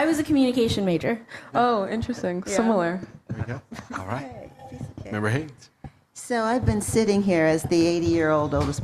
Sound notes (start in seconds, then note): 4.3 laughing